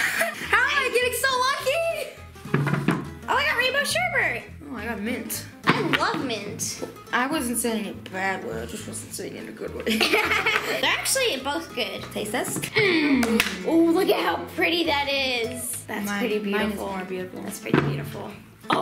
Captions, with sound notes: - How am I getting so lucky? - Oh, I got rainbow sherbet. - Oh, I got mint. - I love mint. - I wasn't saying it bad way, I just wasn't saying it in a good way. (laughs) - They're actually both good. - Taste test? - Ooh, look at how pretty that is. That's pretty beautiful. - Mine is more beautiful. - That's pretty beautiful.